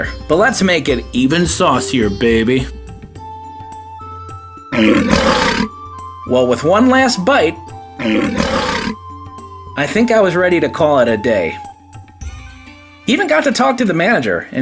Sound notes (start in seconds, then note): 2.8 gentle music continues; 4.7 lion roars; 4.8 gentle music continues; 8.0 lion roars; 8.1 gentle music continues; 11.7 gentle music continues